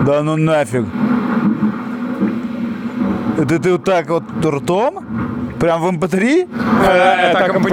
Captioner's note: sarcasm